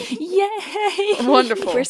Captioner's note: laughs